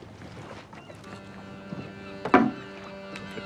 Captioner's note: ship's horn blowing